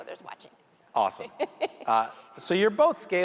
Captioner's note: chuckling